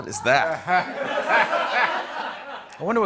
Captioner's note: laughter